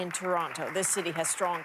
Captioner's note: applause